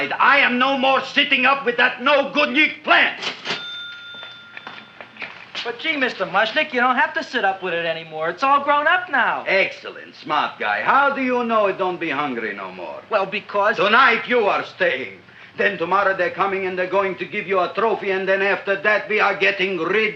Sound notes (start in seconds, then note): 3.2 cash register dings